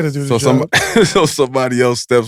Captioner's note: laughs